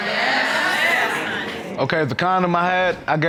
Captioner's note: courtroom agreeing